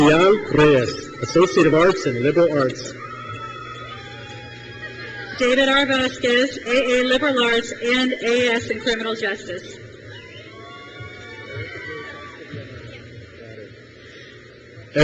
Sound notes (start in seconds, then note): 3.2 crowd cheers; 10.0 crowd cheers